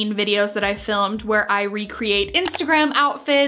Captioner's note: clicking